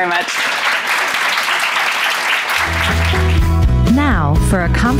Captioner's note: audience applauding